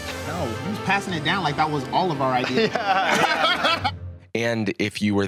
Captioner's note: laughs